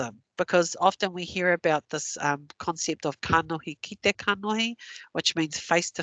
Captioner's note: non-english